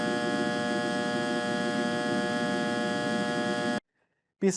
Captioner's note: annoying hum